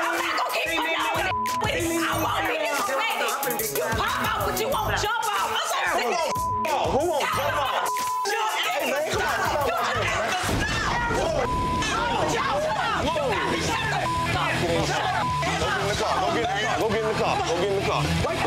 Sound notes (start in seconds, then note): 6.2 beep; 8.8 everyone fighting